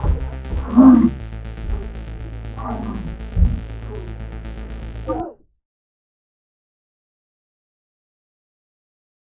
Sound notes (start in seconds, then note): 2.5 muffled grunting